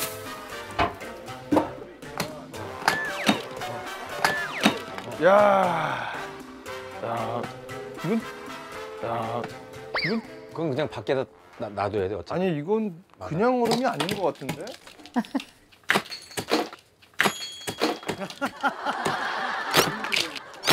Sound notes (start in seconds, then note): 5.2 exclaiming